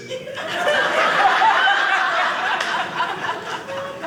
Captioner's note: audience laughing